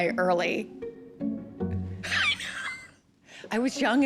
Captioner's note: chuckles